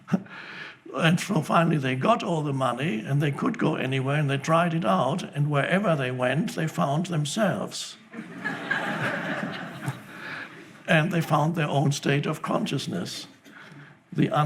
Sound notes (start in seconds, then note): 8.1 audience laughs